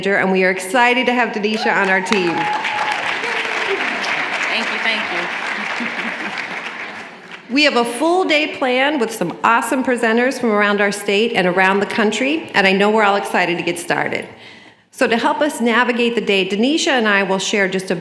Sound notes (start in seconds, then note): 1.5 applause